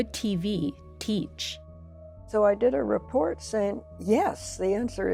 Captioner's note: soundbite of tv show, "the open mind"